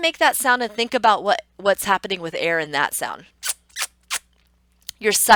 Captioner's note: kissy sound